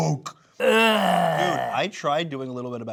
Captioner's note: groans